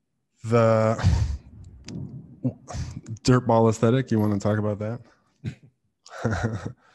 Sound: laughs

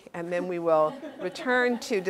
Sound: laugh

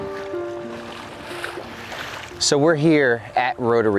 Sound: water splashing

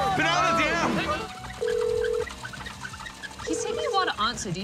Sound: ringing tone

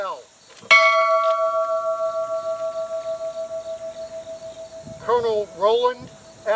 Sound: bell ringing

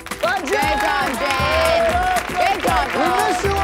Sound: cheering and applauding

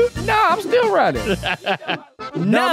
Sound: laughs

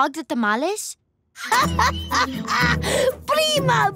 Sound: laughing

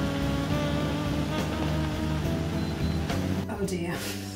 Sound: blender starts

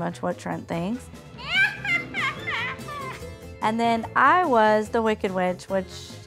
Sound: evil laugh

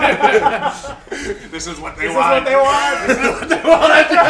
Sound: laugh

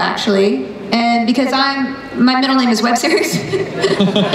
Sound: laughs

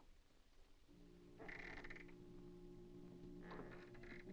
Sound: door creaks

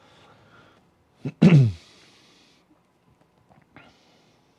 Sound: clears throat

